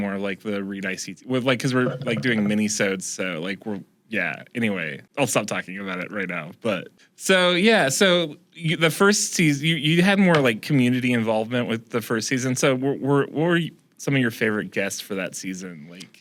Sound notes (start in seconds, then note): none